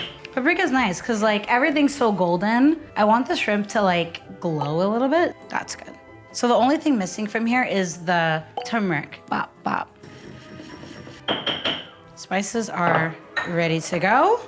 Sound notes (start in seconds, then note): 10.0 mortar and pestle grinding